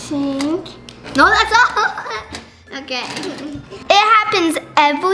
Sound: chuckles; slow-paced quirky music; laughs

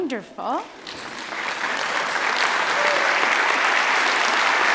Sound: audience clapping

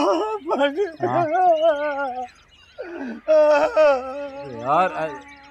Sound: cries continue

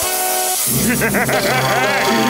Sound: laughing

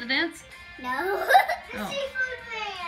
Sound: laughing

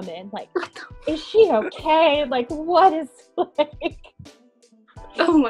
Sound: laughing

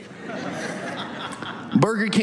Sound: audience laughs

